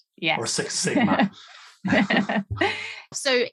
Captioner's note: laughing